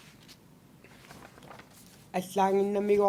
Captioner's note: non-english speech